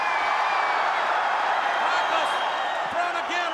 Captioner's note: audience cheering